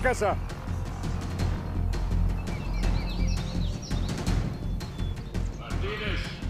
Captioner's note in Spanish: sirena de patrulla